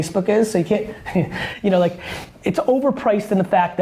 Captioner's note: laughs